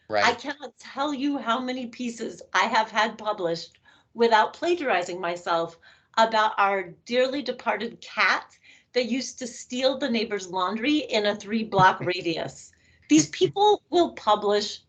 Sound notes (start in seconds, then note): 11.8 laughing